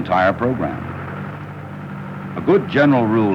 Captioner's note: combustible engine